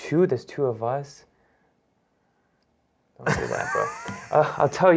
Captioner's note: laughter